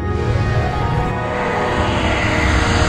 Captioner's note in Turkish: Vınlama